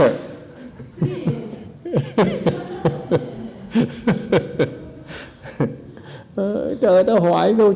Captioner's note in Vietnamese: laughter